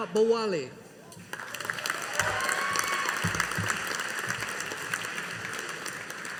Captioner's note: audience applauding